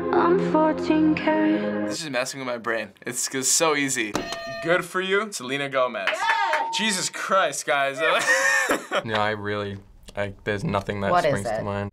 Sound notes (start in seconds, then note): 4.1 hitting bell; 6.0 FBE cheering; 7.9 laughing